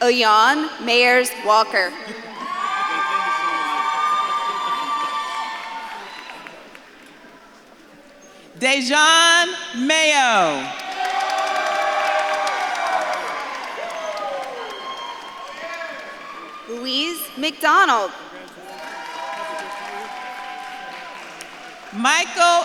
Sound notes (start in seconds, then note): 0.0 audience claps and cheers; 2.7 audience claps and cheers; 11.2 audience claps and cheers; 19.6 audience claps and cheers